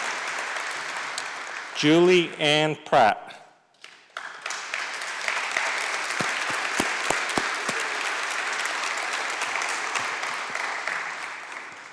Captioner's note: applause; applause